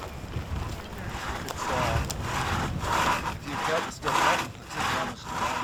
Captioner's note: sawing noises